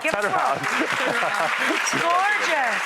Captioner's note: audience applauds; laughs